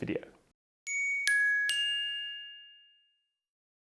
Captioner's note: bell rings